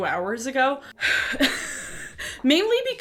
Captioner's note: laughs